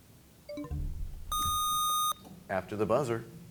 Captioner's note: bell chimes, time expires; buzzer sound